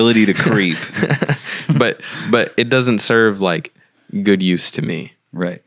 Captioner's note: laughing